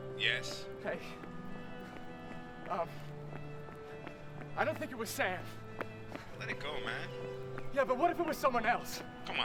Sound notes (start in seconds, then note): 1.6 footsteps pattering